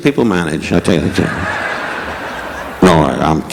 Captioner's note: audience laughing